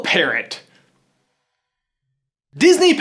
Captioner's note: awkward silence